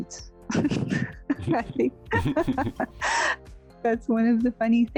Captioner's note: laughing